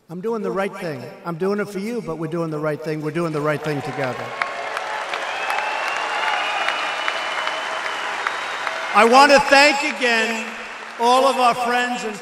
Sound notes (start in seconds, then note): 3.4 applause